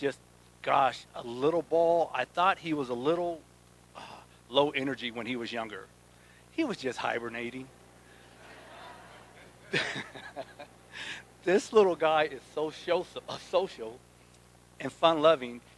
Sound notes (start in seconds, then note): 8.2 laughs